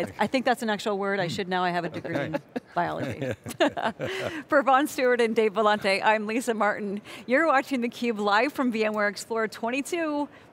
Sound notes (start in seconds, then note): 0.3 laughs